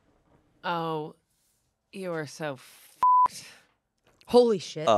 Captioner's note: beep